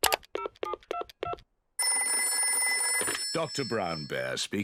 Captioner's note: phone dialing; phone ringing